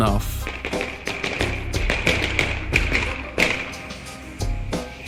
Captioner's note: gunshot sounds